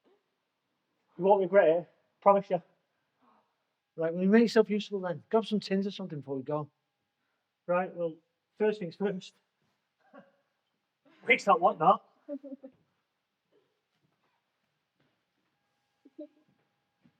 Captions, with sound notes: - You won't regret it, promise ya. - Right, well, you make yourself useful then. Grab some tins or something before we go. - Right, well, first things first. (chuckles) Waste not want not. (Laura chuckles)